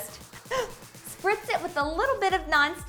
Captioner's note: gasping